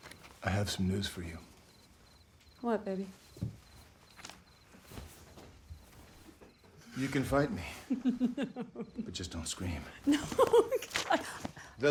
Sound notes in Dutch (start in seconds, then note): 8.4 grinnikt